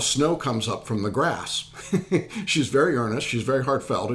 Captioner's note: laughing